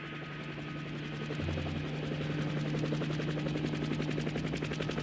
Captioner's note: helicopter blades whirring